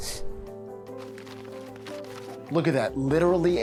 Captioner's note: paper rustles